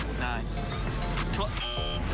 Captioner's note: buzzer